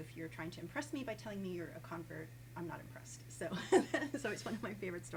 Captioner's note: laughs